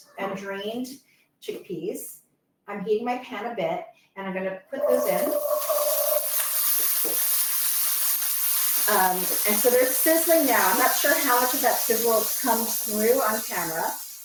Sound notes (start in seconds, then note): 6.3 chickpeas sizzle